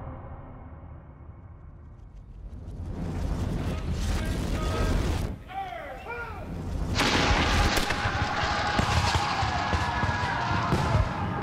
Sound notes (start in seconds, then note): 3.2 men yelling; 6.9 shots firing